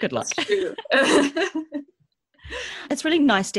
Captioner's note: laughs